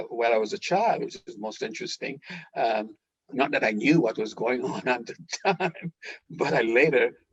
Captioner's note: laughter